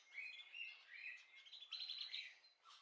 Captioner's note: birdsong